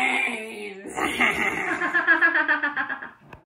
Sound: evil laugh

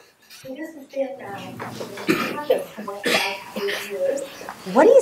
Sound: mumbling and coughing

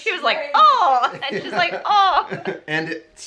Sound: laughing

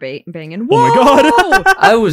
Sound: cackles

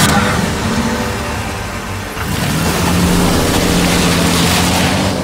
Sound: engine starting up and revving

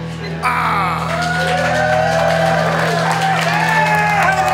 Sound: cheering

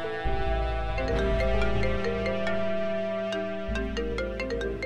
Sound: cell phone rings

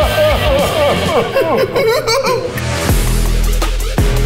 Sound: crying; upbeat dubstep music

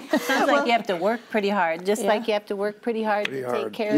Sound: others laugh

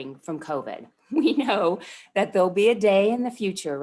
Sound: laughter

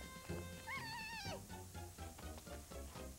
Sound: yells

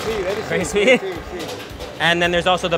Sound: speaking foreign language

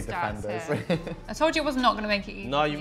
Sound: chuckles

